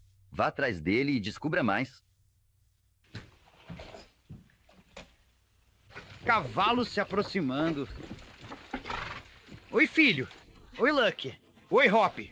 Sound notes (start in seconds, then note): 6.1 horses approaching